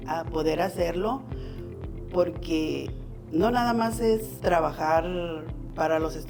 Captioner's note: continues speaking in foreign language